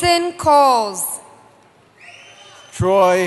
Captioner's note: cheering